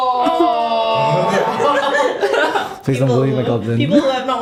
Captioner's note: laughter